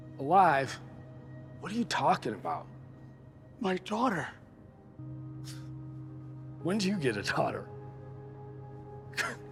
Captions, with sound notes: - Alive? What are you talking about? - My daughter? - (scoffs) When do you get a daughter?